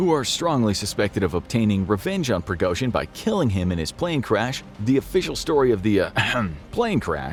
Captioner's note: ahem